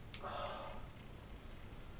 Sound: exhale

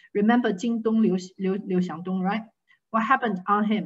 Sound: speaking in foreign language

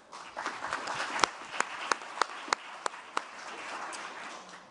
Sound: applause

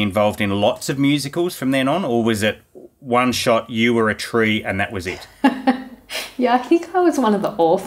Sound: laughing

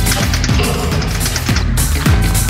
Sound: backfires

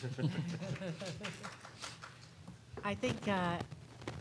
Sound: panelist laughing; crowd clapping

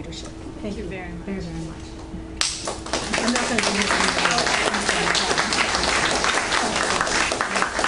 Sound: audience Applauds

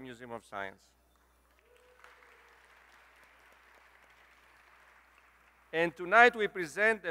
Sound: applause

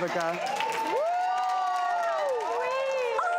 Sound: audience cheering

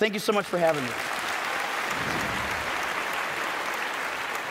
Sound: applauding

